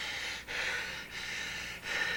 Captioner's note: panting